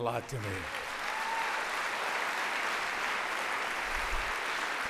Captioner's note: audience applauds